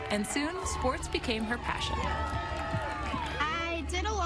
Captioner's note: cheering